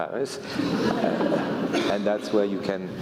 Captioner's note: laugh